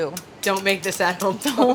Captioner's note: laughs